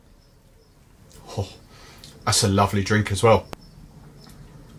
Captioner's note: sighs